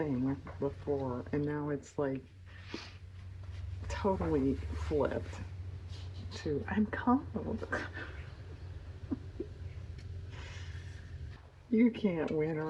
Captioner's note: laughs